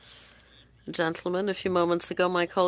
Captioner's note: speaking French